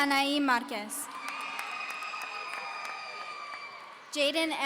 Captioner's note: audience cheering